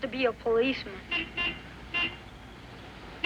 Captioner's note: horn Honks